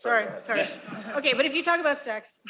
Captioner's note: laughter